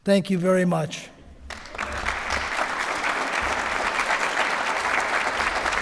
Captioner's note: applause